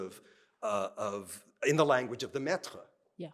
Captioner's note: speaking french